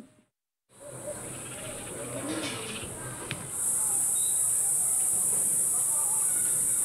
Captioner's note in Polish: odgłosy świerszczy